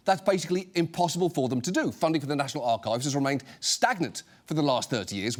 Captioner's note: none